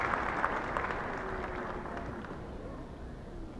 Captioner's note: applauding